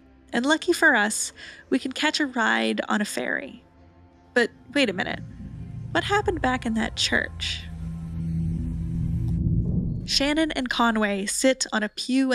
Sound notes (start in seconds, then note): 7.5 ominous noises